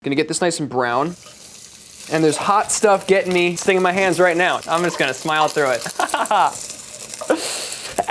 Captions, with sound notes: - Gonna get this nice and brown. [pan sizzling] And there's hot stuff getting me, stinging my hands right now. I'm just gonna smile through it. [laughs]